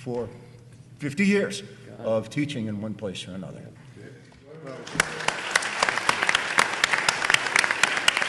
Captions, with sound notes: for 50 years of teaching in one place or another. (audience applauding)